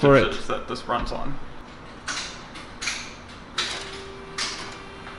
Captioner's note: fans start to whirr